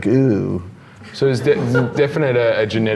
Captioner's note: laughs